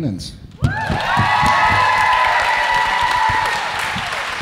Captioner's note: audience cheering